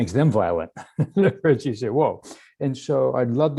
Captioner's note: laughs